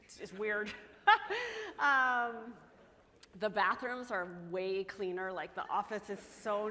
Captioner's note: chuckles